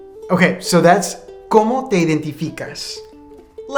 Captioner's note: speaking in a foreign language